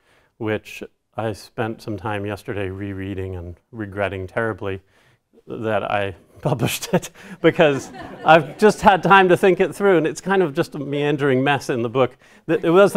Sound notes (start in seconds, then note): 7.3 audience laughter